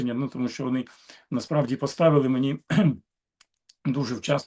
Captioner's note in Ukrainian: прочищення горла